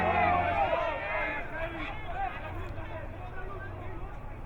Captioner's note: organ music; crowd muttering